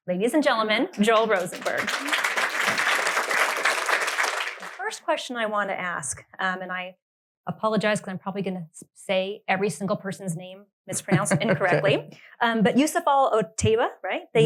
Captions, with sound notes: Ladies and gentlemen, Joel Rosenberg. (audience claps) First question I wanna ask and I apologize, cause I'm probably gonna say every single person's name, mispronounced incorrectly, but Yousef Al Otaiba, right,